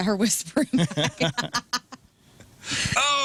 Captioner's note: laughing